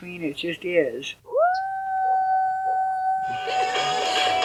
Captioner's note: shouting; rock music drowns out speaker